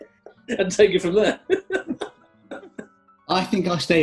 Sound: giggling

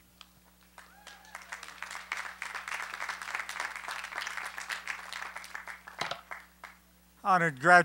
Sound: applause

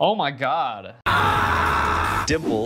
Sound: Guzzlord shouting

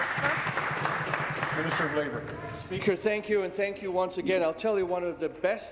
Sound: applause

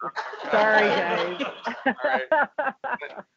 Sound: audience laughing

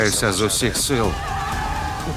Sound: cheering

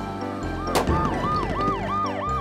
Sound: siren wailing; loud pop off screen

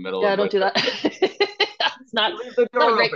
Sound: laughs

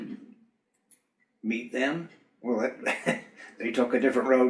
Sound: laughs

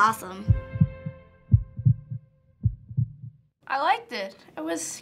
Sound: heart beating

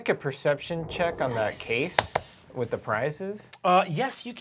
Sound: claps

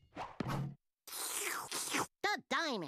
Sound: slurping

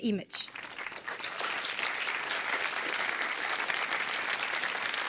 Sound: applause

